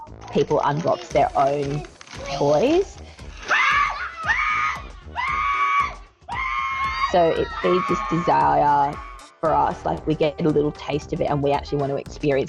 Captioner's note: person screaming